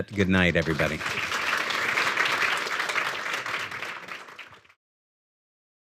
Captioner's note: audience applauding